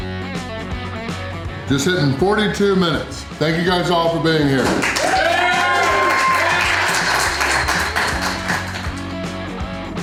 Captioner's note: crowd applause